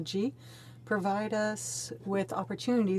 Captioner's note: speaking French